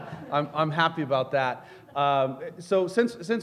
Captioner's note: laughter